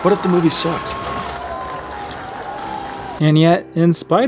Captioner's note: applause